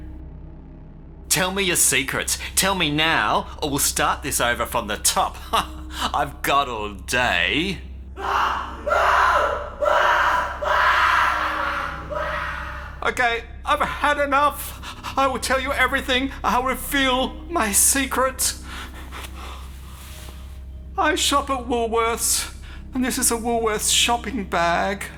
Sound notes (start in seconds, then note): 8.2 laugh; 8.2 screaming